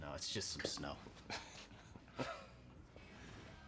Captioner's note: both laugh